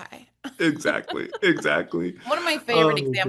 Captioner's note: laugh